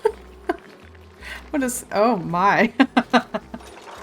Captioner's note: laughs